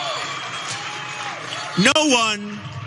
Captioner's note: applause